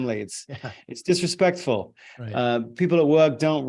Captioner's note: chuckles